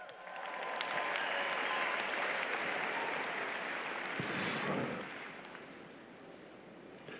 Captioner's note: applause